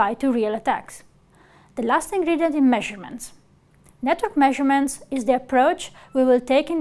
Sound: click

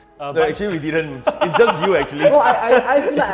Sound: laughs

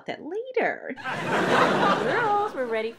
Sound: laughter

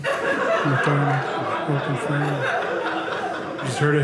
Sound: audience laughing

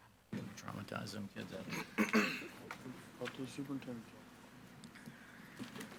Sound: board members chattering

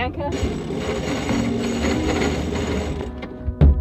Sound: grinding

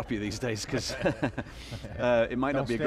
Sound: laughing

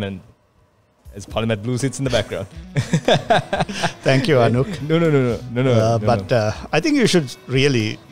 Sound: laughs

